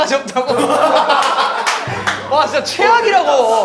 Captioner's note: ha ha ha ha ha